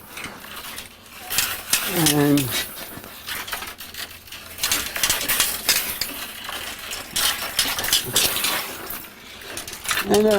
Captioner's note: sound of metal cable wires being loaded into the machine